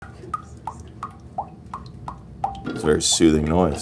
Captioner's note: dripping